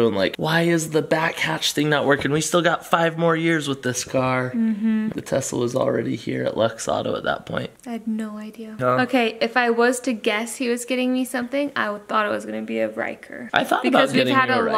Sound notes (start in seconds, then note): none